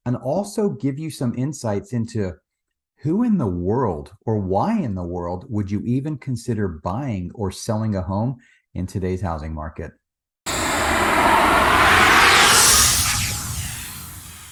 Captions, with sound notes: and also give you some insights into who in the world, or why in the world would you even consider buying or selling a home in today's housing market? (logo whooshing)